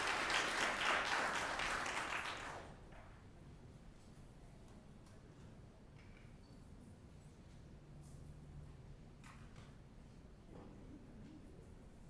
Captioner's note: applause